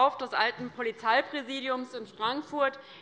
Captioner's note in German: none